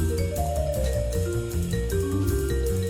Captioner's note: none